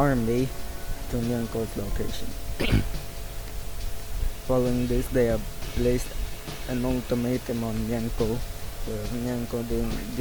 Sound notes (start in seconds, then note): 2.5 clears throat